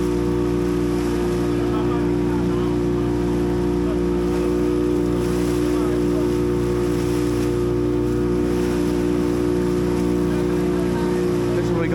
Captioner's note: boat engine roaring